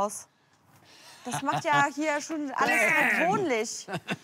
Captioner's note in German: Triumphales Lachen